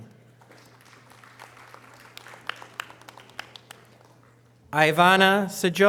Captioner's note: audience applause